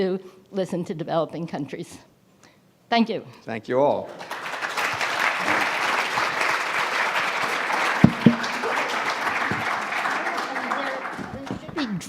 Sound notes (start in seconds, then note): 4.0 audience clapping